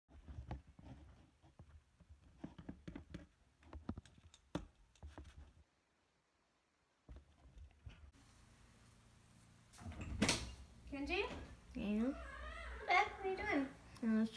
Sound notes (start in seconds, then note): 0.8 pen Scribbling; 9.8 door Opens